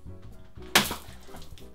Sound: splat

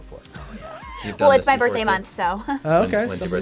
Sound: laughs

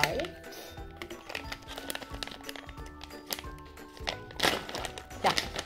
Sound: crunching

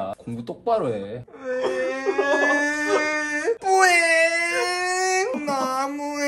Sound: whining and crying

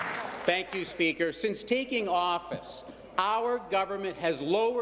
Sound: applause

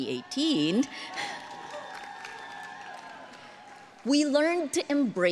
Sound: audience cheering

